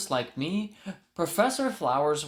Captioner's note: inhale